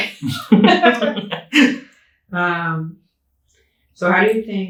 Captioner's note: both laughing